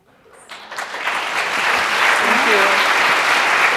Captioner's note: audience applause